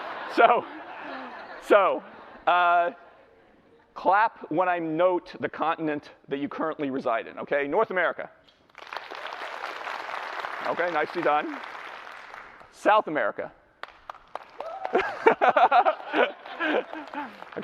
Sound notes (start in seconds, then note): 8.6 clapping; 13.8 light clapping; 14.8 laughter